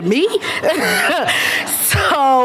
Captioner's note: laughter